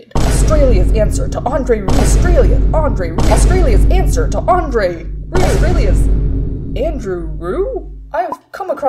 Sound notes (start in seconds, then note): 0.1 crashing sound